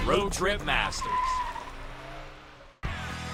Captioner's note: tire screeching; upbeat music